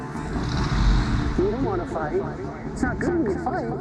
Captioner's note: echoes